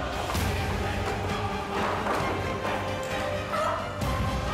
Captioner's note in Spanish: estrépito de la caída